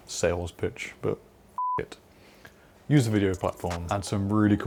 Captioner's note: beep